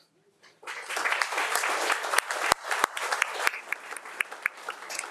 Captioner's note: audience applauding